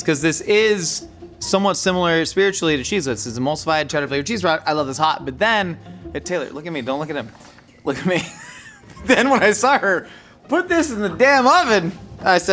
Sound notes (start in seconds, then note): 7.8 laughing